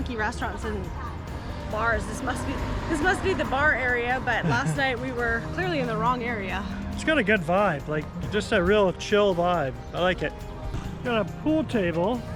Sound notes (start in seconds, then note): 4.3 laughs